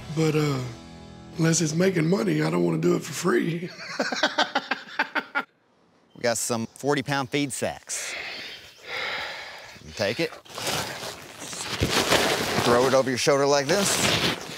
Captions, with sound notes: But unless it's making money, I don't want to do it for free. [LAUGHS] We got some 40 pound feed sacks. [HEAVY BREATHING] Take it. Throw it over your shoulder like this.